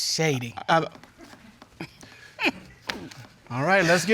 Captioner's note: chuckles